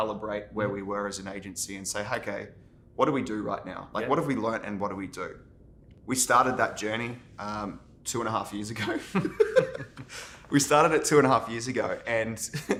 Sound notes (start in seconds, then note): 8.8 both laughing